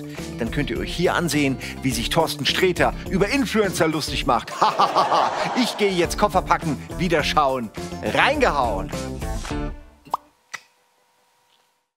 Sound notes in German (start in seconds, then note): 4.4 Gelächter; 10.0 Ploppen, Zungenschnalzen